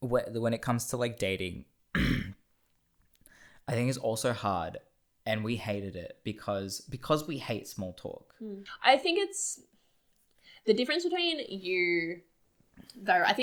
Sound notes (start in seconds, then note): 1.9 clears throat